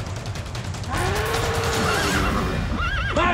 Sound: mooing, horse whinnies

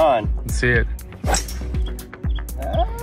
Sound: ball thwacking

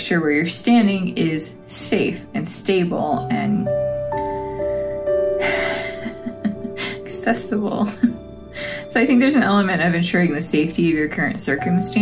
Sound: laugh

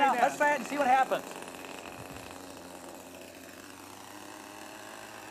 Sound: helicoper wings flapping

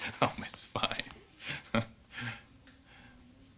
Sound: chuckles

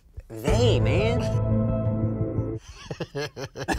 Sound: mysterious music; laughs

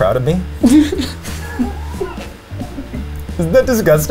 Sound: woman giggles

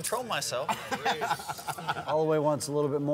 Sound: laughing

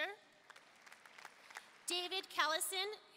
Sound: audience applauding

